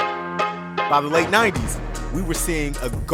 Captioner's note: voiceover